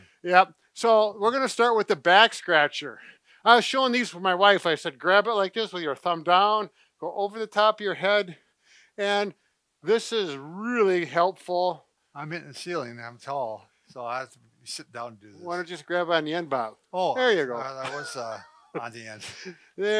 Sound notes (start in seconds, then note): 17.6 chuckles